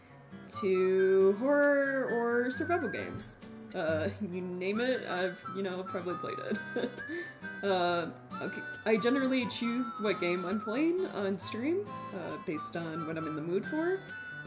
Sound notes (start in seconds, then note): 6.4 chuckles